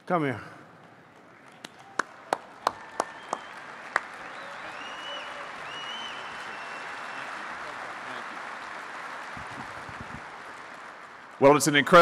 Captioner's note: applause